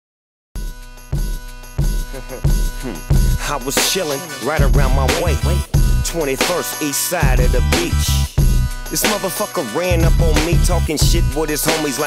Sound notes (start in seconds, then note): 0.6 funky music; 1.9 band member laughs